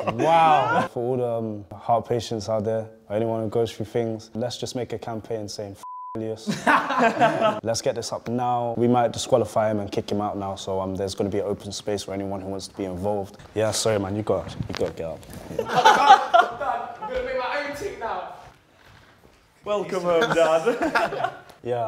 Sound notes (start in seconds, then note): 5.8 beep; 6.5 laughing; 15.4 laughing; 19.9 laughing